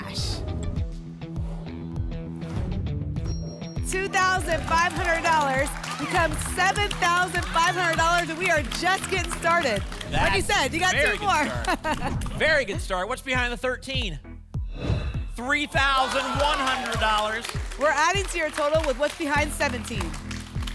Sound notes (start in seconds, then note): 0.2 whoosh; 2.3 whoosh; 14.7 whoosh